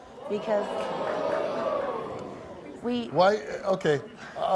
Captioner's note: audience oohing